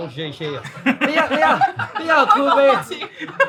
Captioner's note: group laughing; staff 2 and friend 1 speaking in foreign language